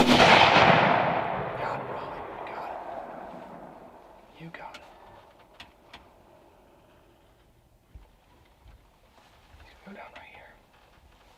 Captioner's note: whispering